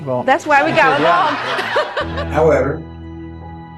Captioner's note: laughter